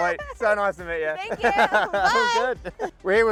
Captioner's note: laughs